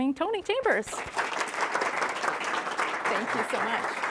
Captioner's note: audience applauding